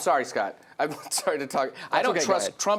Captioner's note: laughs